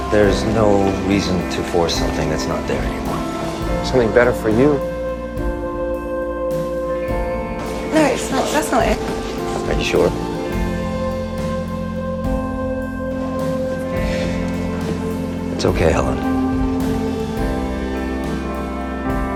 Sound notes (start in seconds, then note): 8.1 voiceover